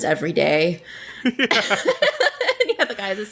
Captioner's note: laughs